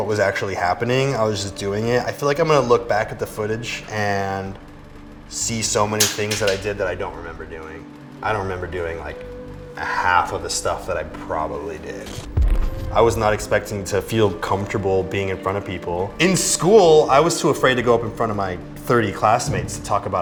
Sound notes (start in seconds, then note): none